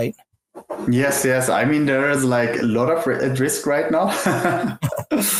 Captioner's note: laughs